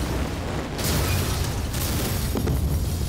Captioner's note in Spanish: explosiones